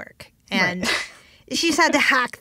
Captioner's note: laughs